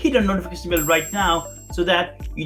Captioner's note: bell ringing